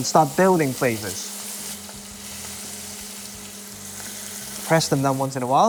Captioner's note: sizzling sound